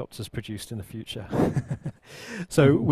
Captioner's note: chuckles